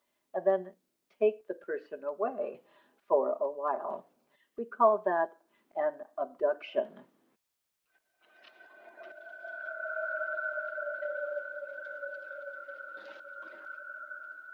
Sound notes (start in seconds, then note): 8.2 mysterieus geknetter